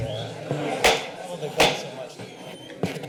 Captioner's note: gavel thuds